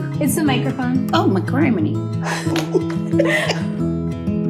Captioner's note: laughs; acoustic music